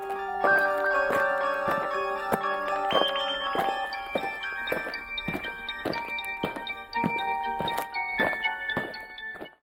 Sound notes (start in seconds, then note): 0.0 eerie music; 5.1 aliens marching